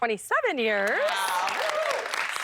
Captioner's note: applause